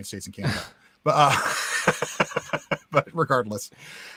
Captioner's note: both laughs